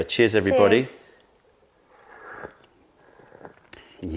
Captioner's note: sips tea